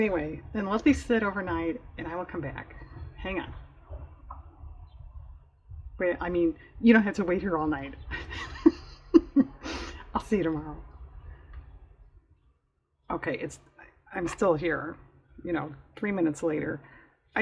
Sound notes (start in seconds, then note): 8.0 laughs